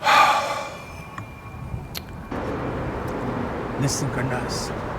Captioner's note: Jim sighs